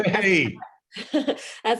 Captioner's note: laughs